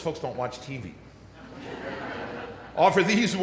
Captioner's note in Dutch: Gelach